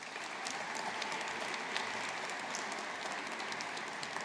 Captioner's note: audience applauding